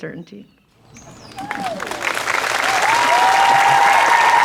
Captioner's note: clapping and cheering